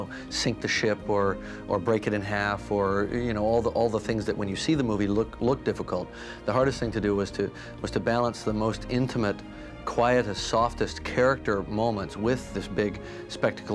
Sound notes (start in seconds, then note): none